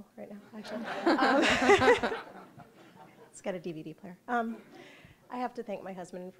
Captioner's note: audience laughing